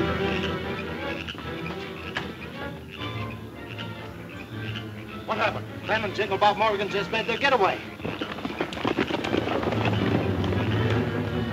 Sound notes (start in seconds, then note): 1.0 frogs croaking